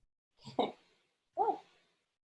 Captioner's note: chuckles